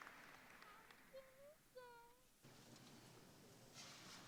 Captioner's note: applause